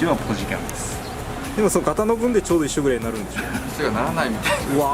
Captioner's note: laughs